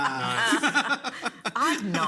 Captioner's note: people laugh